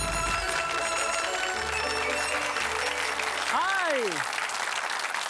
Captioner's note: audience clapping